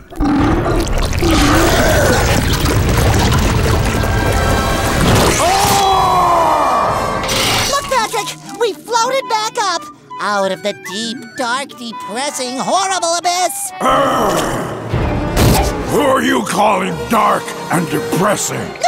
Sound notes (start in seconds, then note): 0.0 growling; 5.5 roaring; 13.8 growling